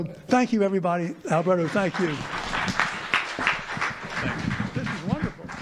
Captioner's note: audience applauding